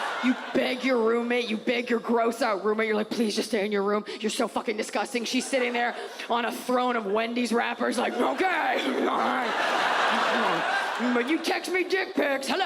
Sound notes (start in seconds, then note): 7.9 audience laughs